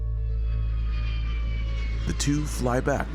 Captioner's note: engine roaring